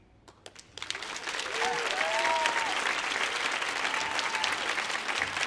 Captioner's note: audience applauding